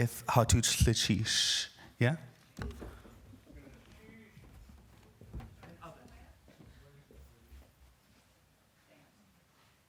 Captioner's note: speaking indigenous language